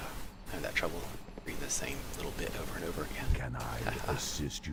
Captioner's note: laughs